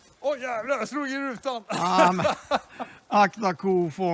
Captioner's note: jokingly